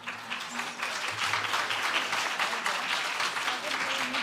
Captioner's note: applause